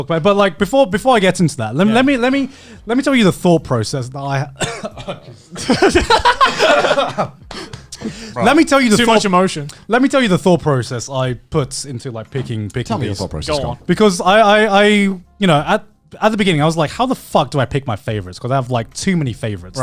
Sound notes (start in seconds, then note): 4.4 coughing; 4.6 both laughing